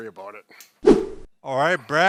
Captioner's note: air swooshing